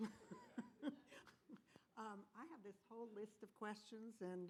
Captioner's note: laughter